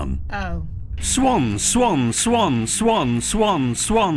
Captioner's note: voiceover